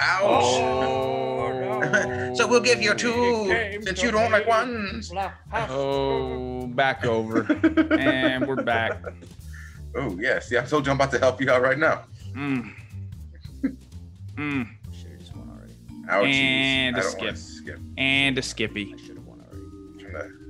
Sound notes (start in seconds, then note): 7.0 laugh